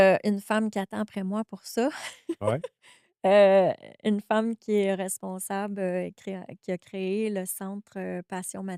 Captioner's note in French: rires